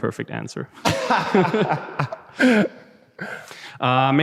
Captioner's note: lacht